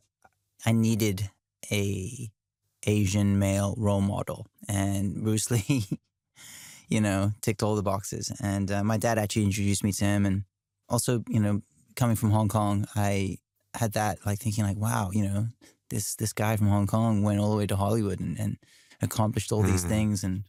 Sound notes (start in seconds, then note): 5.6 chuckles